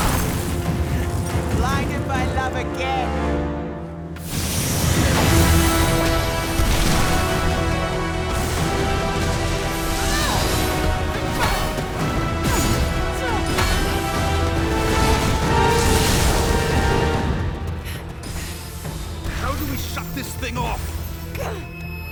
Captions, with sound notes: - Aah! - Blinded by love again. (light whooshing) (dramatic music) (rocks crashing) (dramatic music) - Argh! (flares and fires crashing) (dramatic music) (fire whooshing) - How do we shut this thing off?